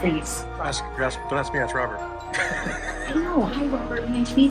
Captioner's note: laughs